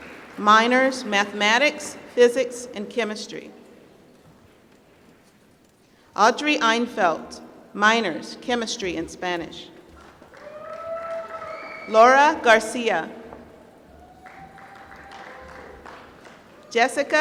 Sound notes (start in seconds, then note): 10.0 applause; 14.1 applause